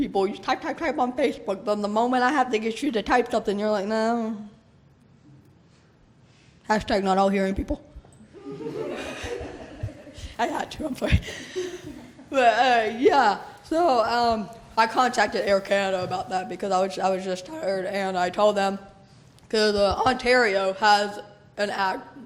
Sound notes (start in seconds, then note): 8.3 laughter